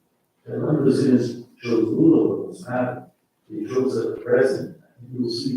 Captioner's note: faintly speaking